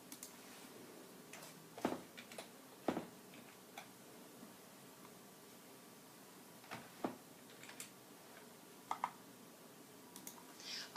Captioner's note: typing